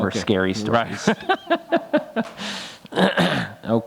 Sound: laughs

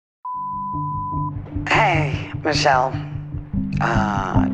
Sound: Voicemail Beep. Rachel is speaking

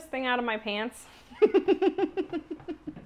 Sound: laughter

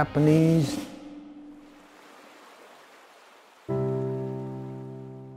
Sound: river flowing

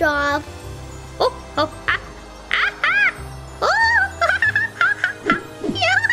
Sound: monkey screeching

